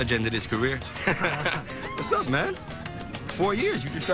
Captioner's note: both laugh